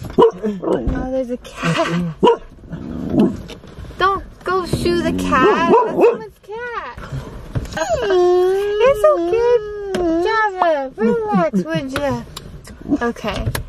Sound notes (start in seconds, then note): 5.5 bark; 8.2 whining